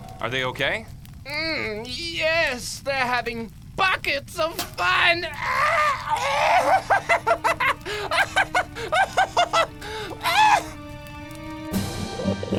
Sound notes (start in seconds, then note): 8.5 laughs maniacally